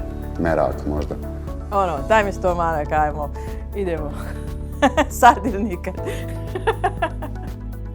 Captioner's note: laughter